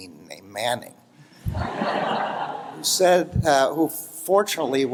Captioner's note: laughter